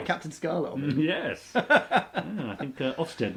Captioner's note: laughs